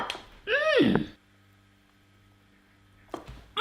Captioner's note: he grunts